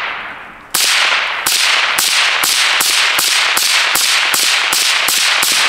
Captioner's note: rapid fire gunshots